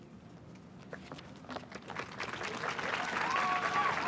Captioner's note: applause